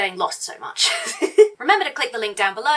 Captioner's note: laughs